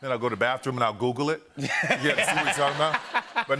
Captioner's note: laughter